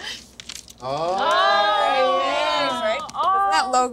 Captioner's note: laughing; all cheering